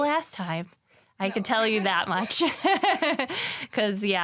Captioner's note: laughs